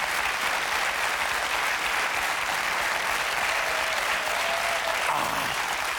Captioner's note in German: Applaus